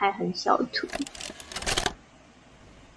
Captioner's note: familiar sound of playing VHS